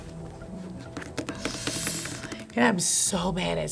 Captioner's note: deep breath